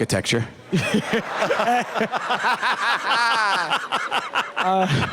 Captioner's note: laughter